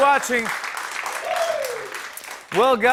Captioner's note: cheers and applause